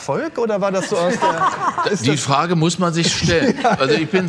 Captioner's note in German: Lachen